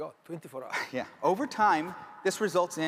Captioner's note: chuckles